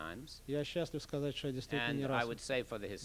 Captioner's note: non-english speech